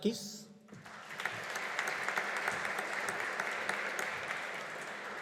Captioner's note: audience applauding